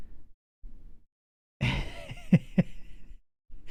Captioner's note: laughs